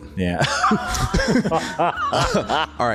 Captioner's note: laughter